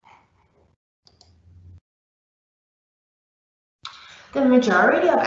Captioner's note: mouse clicking